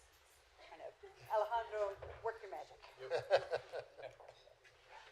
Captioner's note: laughter